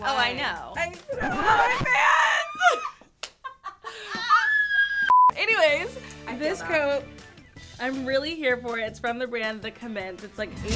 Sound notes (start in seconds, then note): 2.7 girls laughing; 2.7 screen beeps